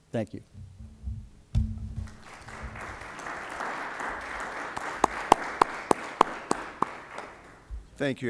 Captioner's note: applause